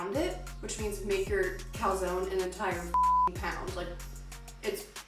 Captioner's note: beep